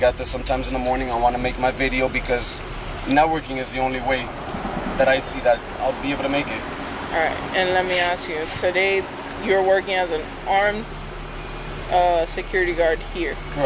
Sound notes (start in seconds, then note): none